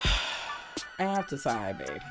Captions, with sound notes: (sighs) I have to sigh babe,